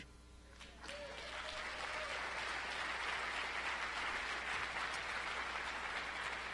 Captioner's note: applause